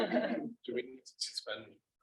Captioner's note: group laughing